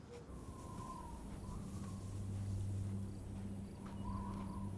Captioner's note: wind howling